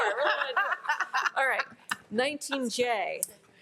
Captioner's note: all laugh